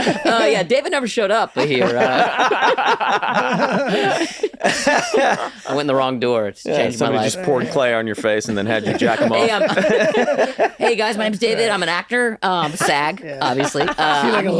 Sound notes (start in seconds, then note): 1.5 laughter